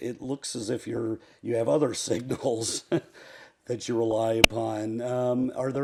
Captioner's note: laugh